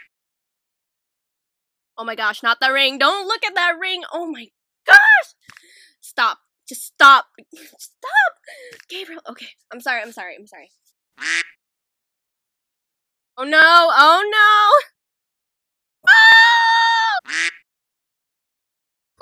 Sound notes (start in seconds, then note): 11.2 quack; 17.2 quack